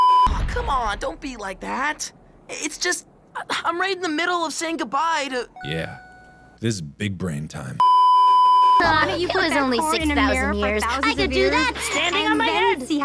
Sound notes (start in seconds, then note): 7.8 beeeeeep